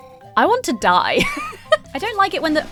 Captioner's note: laughs